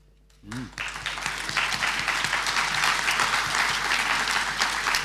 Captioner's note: audience applauding